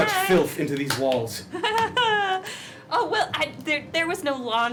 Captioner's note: nervous giggle